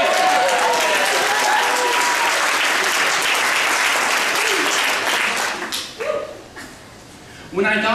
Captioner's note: applause